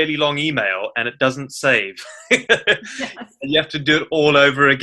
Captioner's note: laughs